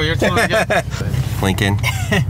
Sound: laughing

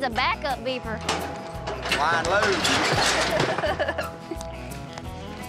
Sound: chuckling

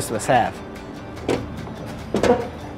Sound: door opens

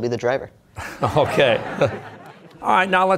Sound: laughing; audience laughter

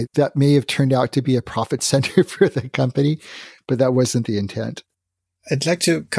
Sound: laughs

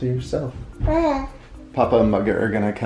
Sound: babbles

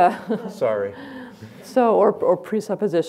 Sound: laughs

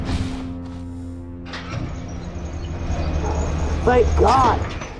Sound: door Opening

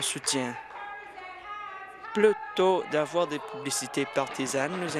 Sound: applause

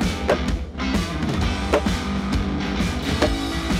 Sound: machine slaps

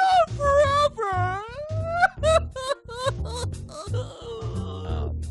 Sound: crying

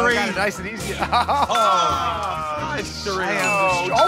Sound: laughs

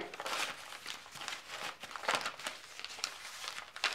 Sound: paper rustling

